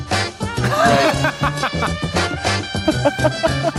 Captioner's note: laughing